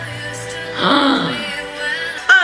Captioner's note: gasps